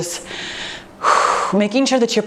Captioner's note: breathes out